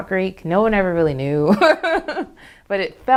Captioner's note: laughs